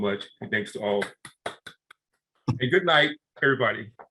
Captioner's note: clapping